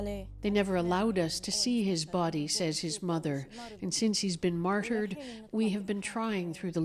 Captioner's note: speaking alternate language